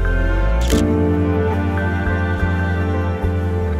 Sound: camera shutter clicks

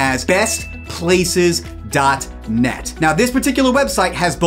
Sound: graphics ding

